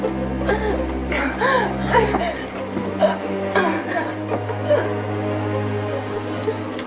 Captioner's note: Macy coughing; collar crackling; solemn music; Macy gasping